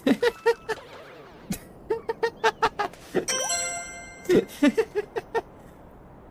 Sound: strong high pitched laughter

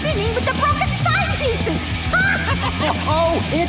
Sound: laughing

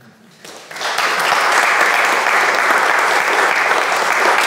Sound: audience clapping

